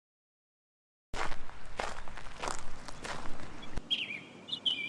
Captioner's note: footsteps crunch; bird chirps